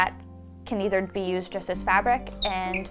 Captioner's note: wheel squeaks